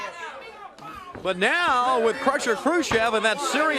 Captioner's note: crowd chatter